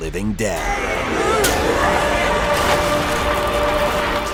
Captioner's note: grunting